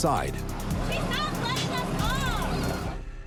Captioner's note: child speaking